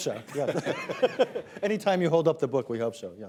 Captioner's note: laughter